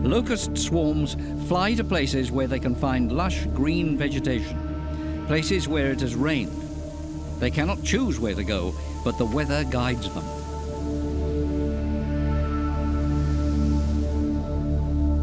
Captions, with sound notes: Locust swarms fly to places where they can find lush green vegetation, -places where it has rained. -[locusts fluttering] They cannot choose where they go, but the weather guides them.